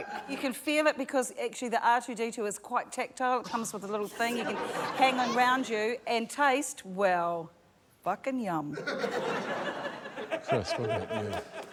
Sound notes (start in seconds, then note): 8.7 laughter